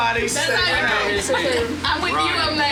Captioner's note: crowd chattering